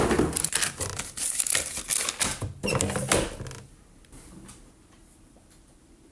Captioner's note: box banging; papers rustling; paper crackling; machine banging